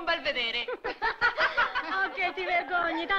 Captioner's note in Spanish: prostitutas riendo